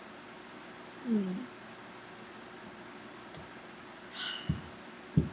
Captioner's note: sighs